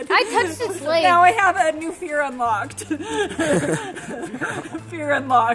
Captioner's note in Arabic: يضحك